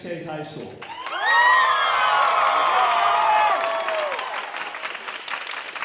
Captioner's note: audience cheering and applauding